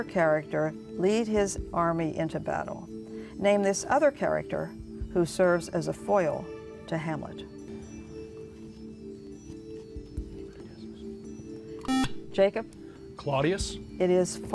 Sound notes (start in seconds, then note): 11.8 buzzer